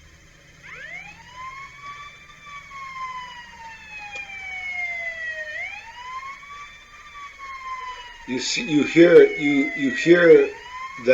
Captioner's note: some police sirens are coming their way